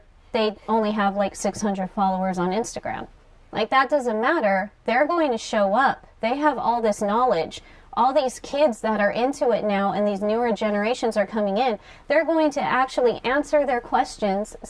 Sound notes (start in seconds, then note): none